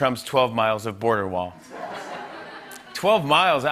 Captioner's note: laughter